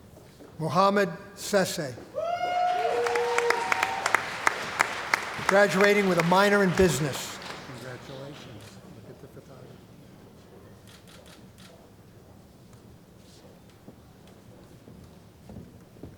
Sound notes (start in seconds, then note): 2.2 applause